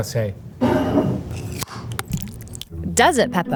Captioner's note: jar sliding; lid opening; salsa pouring